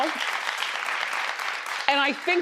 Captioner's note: crowd applauding